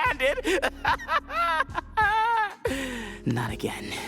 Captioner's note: laughing maniacally